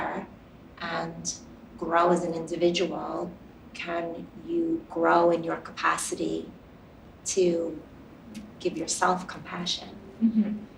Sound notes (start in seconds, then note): none